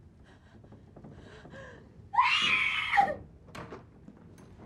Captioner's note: cris fort